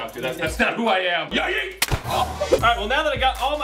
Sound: splat

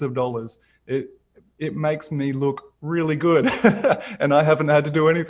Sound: laughs

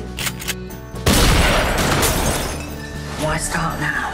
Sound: gun fires

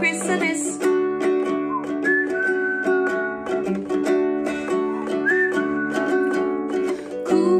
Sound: whistling

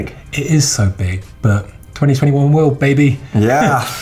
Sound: chuckles

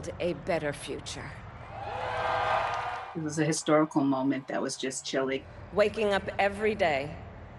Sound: cheers and Applause

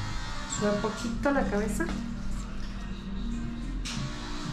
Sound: speaking in Spanish

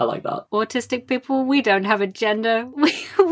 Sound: laughing

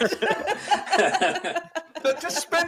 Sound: laughing

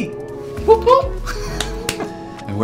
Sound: smacks hands

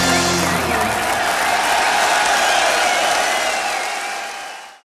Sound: audience cheers and applauds

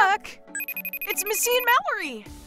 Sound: video call ringing

